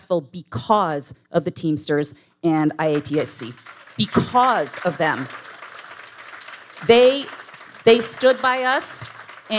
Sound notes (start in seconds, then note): 4.8 audience applauding